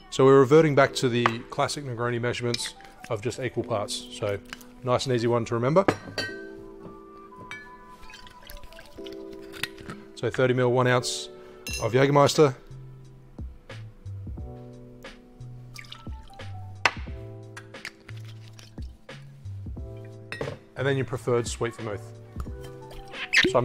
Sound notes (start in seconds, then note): 15.7 liquid pouring